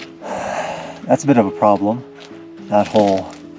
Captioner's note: sighs